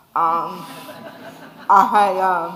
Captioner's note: audience laughing